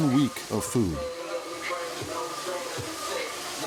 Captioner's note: food sizzling; chattering; upbeat music